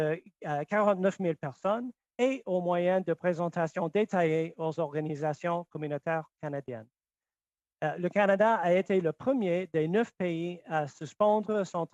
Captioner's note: speaking French